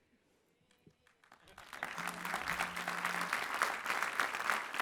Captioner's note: clapping